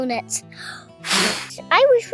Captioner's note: blowing